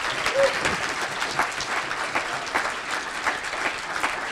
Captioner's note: applause